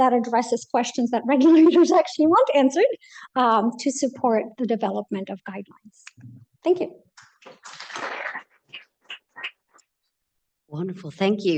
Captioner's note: applause